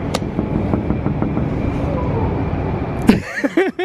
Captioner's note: knocking on glass; laughs